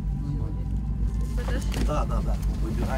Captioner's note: quiet voices